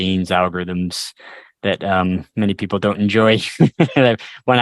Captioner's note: laughter